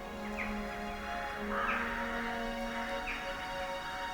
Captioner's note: birds singing; gentle music